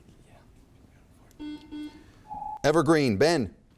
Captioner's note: buzzer chimes